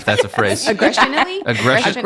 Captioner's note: laughing